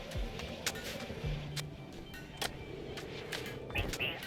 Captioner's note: typing